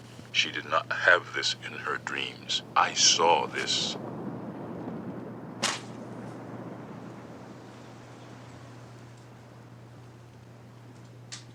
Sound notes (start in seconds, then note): 5.6 notes slap onto couch